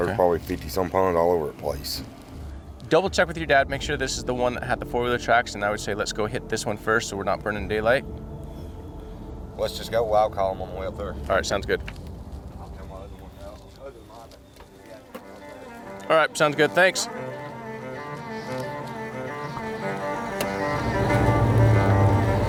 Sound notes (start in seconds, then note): 13.6 men mumbling off mic; 18.6 stringed instrument music